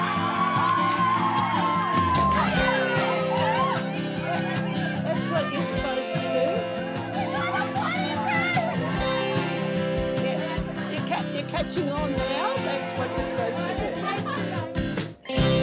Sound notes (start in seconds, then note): 7.3 team whooping; 7.3 uplifting music; 15.4 uplifting music